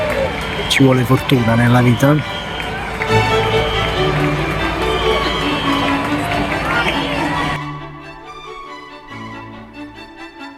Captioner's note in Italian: Applauso